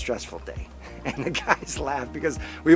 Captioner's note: laughing